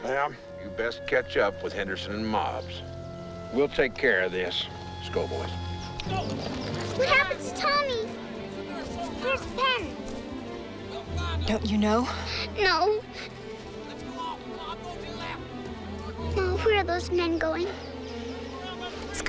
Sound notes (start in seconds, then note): 6.2 frantic music resumes; 13.8 men yelling